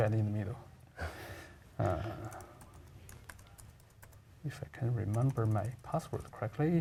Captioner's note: laugh